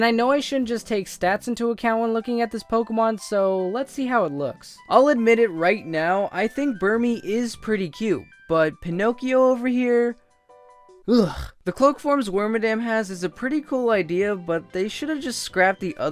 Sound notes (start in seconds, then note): 5.0 sigh